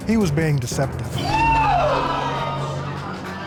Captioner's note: audience gasps